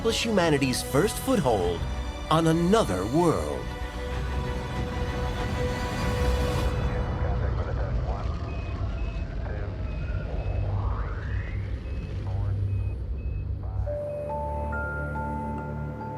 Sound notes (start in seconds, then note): 7.2 radio chatter, beeping